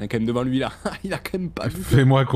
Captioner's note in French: il rit